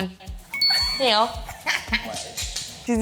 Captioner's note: psychic twin laughter